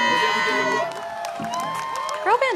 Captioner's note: cheers